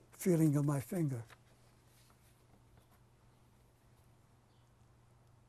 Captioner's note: pauses for 6 seconds